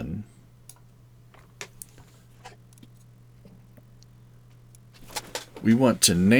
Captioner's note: mouse clicking